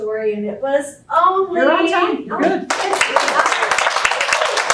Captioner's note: applause